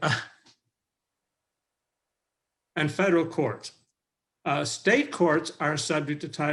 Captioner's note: chuckles